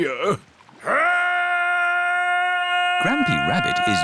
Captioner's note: shouting